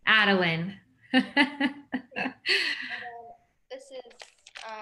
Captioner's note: laughs